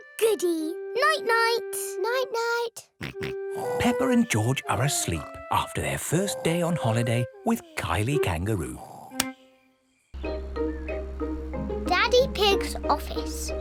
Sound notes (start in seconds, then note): 3.6 snores; 3.6 snorts